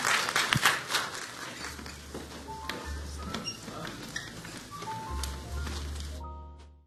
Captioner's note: applause